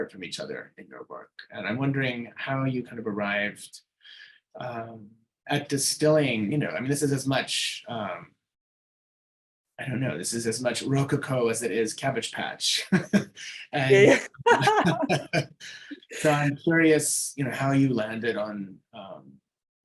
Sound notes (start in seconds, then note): 12.8 both laughing; 15.6 laughing